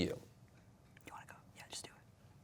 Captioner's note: whispering